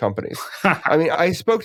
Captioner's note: laugh